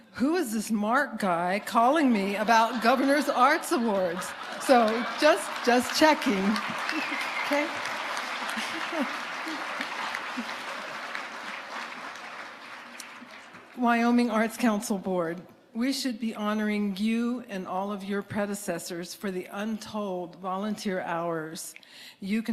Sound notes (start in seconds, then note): 8.0 audience applauding